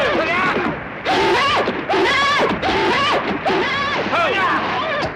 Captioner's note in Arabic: يزداد صهيل الحصان